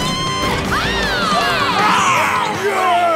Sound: cheering

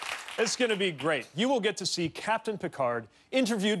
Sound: cheers and applause

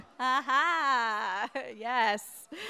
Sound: audience laughing

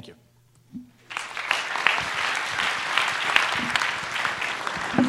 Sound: applause

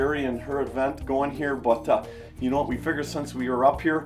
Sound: none

